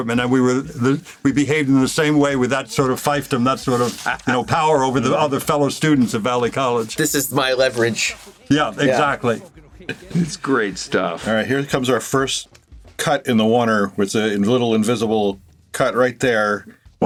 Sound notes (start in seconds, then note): 8.1 chuckles